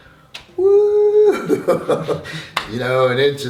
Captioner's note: screaming